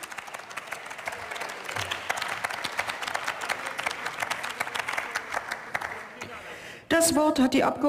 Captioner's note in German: Beifall